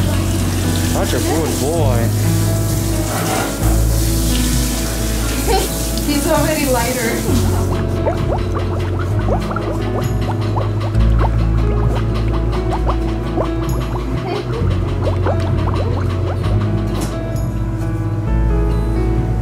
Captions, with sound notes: Such a good boy. [Laughter] He's already lighter. [Laughter]